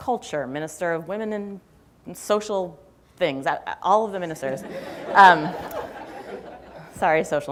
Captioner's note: laughter